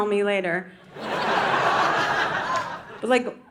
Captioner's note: audience laughing